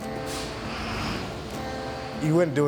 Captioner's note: firetruck engine running